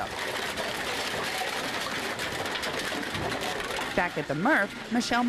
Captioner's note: containers clattering